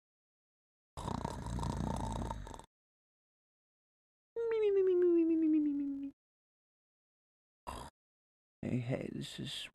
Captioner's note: snoring